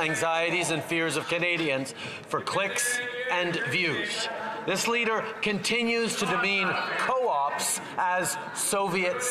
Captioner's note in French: voix de l'interprète